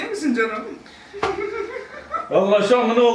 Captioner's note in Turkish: gülüyor